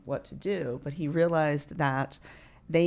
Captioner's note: none